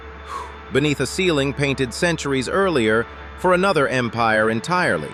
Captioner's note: exhales